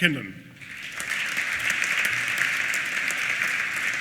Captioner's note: applause